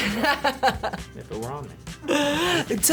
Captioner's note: laughs